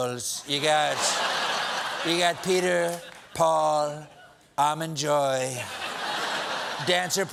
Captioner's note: laughter